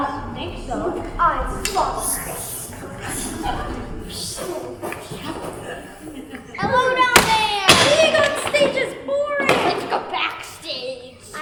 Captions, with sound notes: I don't think so. Luke, I am your father! [Lightsaber noises] Hello down there! Being onstage is boring! Let's go backstage!